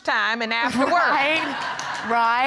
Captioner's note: audience laughs